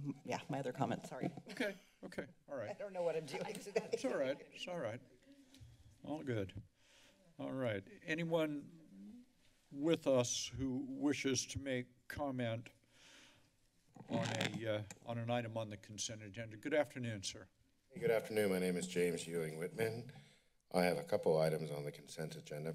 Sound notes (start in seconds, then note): 3.3 laughs